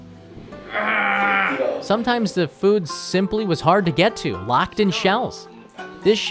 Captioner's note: grunting